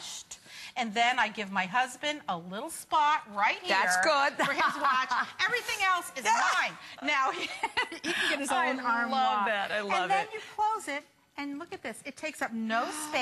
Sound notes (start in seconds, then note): 4.4 laughter